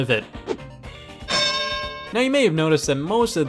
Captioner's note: bell dings